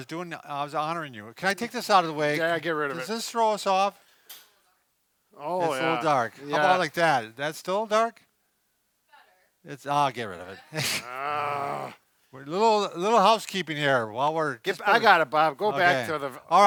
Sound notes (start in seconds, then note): 10.8 grunts